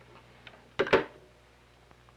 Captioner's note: telephone hung-up